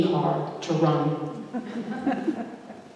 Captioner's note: laughter